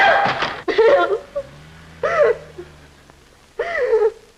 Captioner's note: sobbing